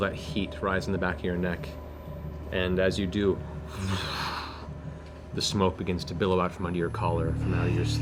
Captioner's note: whoosh